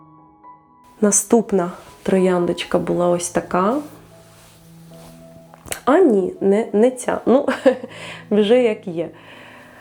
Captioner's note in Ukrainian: сміх